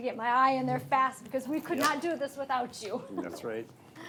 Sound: laughs

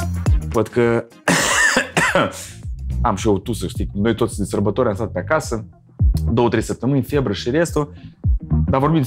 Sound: coughing

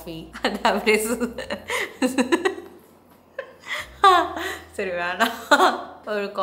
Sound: laughing hard

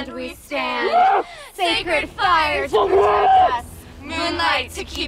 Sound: man screaming

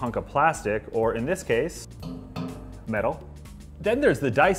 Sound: tapping

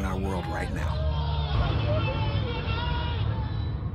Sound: shouting

